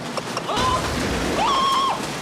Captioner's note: Marv yelling; Marv screaming